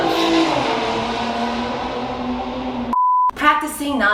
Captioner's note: loud-ass motorcycle engine revving